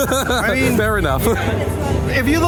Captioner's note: laughing